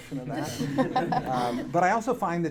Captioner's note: audience laughing